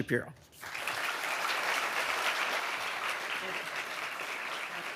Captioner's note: audience applauding